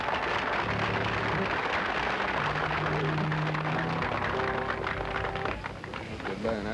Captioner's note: applause